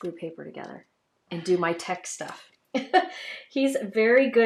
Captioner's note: laughs